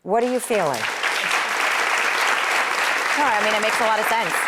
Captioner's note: audience claps